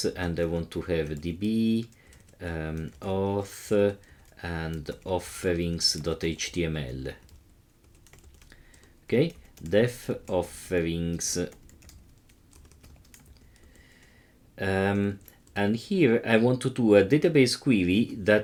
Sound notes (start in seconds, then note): 11.4 keyboard clicking